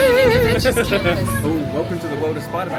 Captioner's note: laughing